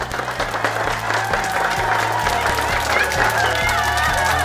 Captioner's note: audience clapping; audience cheering